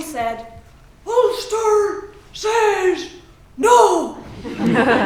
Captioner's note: Ian Paisley voice